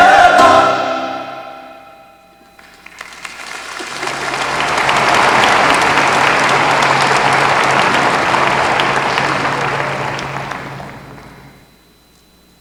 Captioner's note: applause